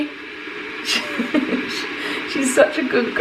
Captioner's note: laughs